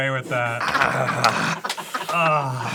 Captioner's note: crew laughs